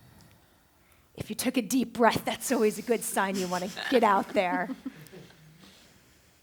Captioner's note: laughter